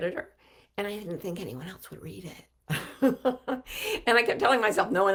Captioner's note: laughs